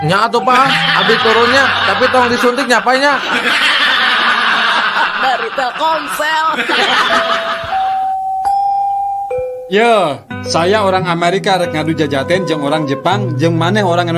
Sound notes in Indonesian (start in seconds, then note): 0.5 tertawa